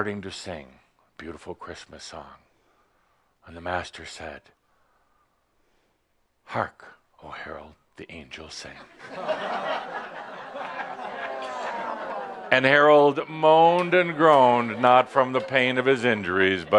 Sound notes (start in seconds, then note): 9.1 groans and laughter at pun